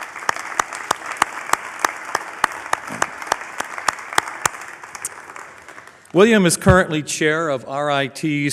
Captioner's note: applause